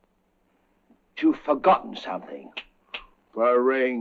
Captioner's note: snapping fingers